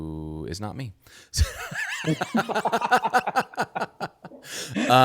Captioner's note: laughing